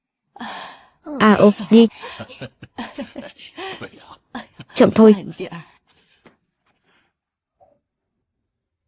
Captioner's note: tiếng cười